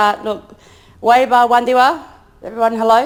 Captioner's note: speaks in foreign language